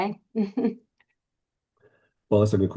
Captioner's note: chuckling